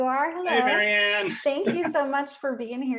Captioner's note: chuckling